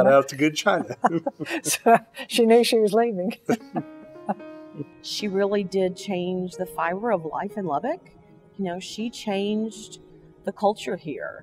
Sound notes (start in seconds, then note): 0.6 laughs in unison; 3.4 laughs